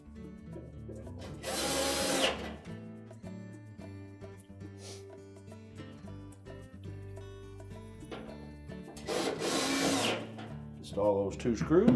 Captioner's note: drilling noise